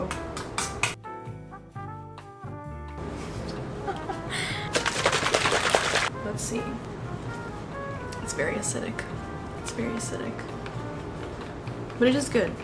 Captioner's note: laughs